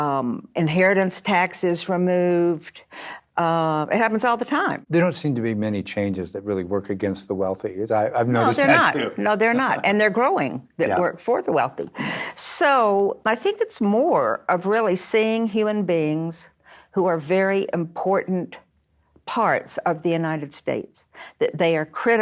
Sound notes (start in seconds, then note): 8.5 chuckling